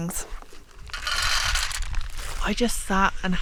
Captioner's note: choccies rattling